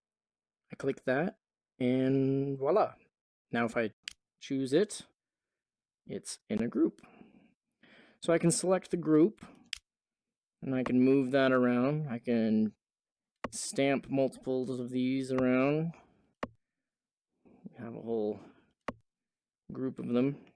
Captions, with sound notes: I click that. . . and voila! Now if I choose it, it's in a group! So I can select the group. [click] and I can move that around. I can stamp multiples of these around. . . and have a whole group of them.